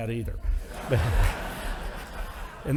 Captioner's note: audience laughing